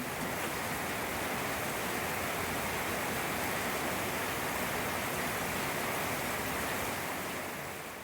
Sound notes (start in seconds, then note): 0.6 heavy rain